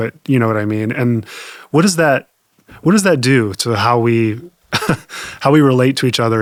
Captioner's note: chuckles